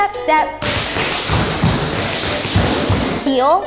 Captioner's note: shoes tapping